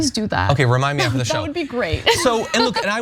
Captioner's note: laugh